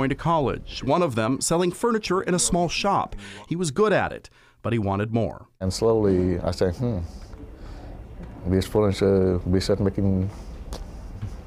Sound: weeping

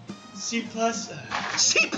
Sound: sighs

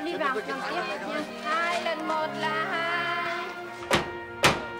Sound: Vietnamese

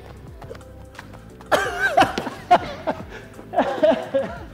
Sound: laughs

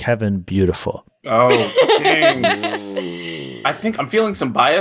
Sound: laughing

